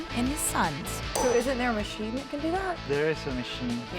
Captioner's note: hammering